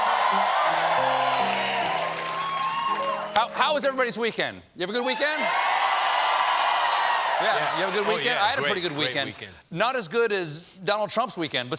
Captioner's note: cheers and applause